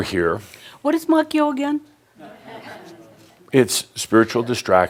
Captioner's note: a few chuckles